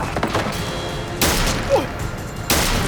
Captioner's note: gunshot